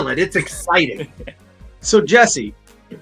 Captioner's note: chuckles